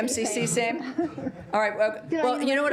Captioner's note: laughter